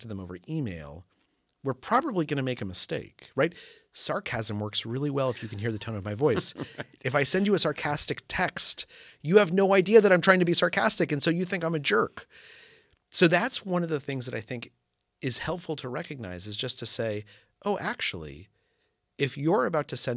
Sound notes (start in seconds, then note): 5.2 laugh